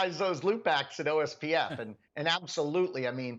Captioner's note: laugh